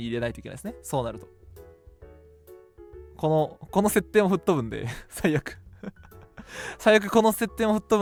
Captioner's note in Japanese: 笑い